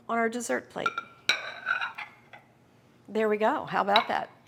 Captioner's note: plates clanging